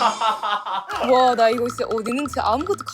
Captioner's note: seniors cracking up; dialect rampage